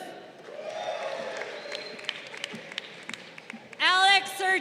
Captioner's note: crowd cheering